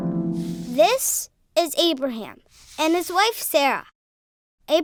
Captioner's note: voiceover